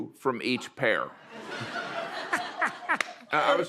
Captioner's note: laughter